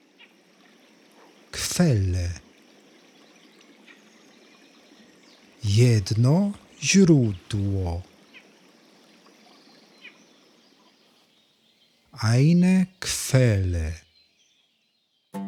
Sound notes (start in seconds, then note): 2.8 german; 14.0 german